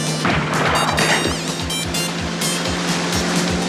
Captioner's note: guns firing